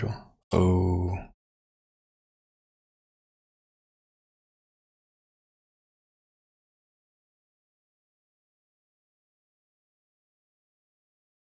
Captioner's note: silence